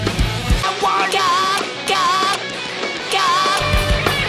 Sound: shouting Outside, solo is faintly in the distance

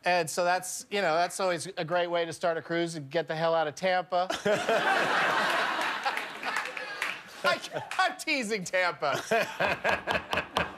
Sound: laughter

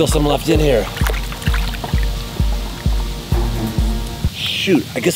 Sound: soft splashing

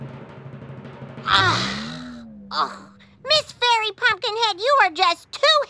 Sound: sighing

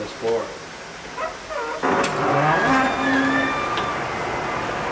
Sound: door creaking shut

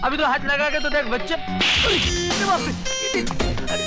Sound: slap

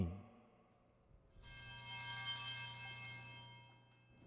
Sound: bell rings

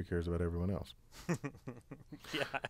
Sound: laugh

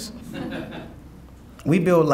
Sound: audience laughing

